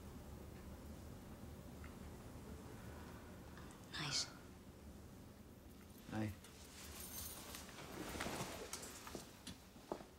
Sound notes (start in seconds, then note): none